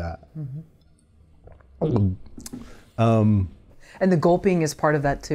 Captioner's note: takes a drink of water and gulps